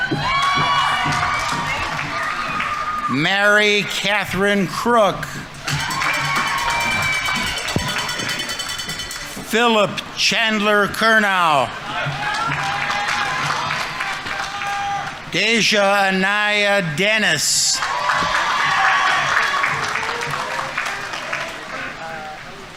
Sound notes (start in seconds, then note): 0.0 audience applauding; 0.1 audience members cheering; 5.5 audience members cheering; 5.5 audience applauding; 11.4 audience applauding; 12.0 audience members cheering; 17.5 audience applauding; 17.7 audience members cheering